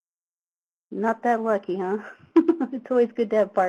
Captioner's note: laughs